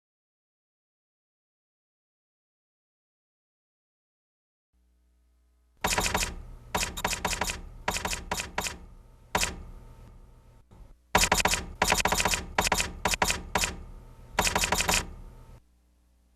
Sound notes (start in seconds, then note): 5.9 typewriter clicking; 11.1 typewriter clicking